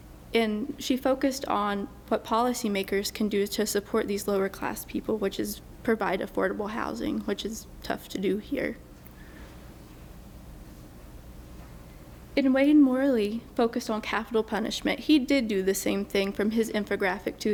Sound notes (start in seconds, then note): none